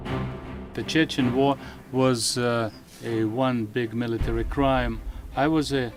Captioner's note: audio translated from Russian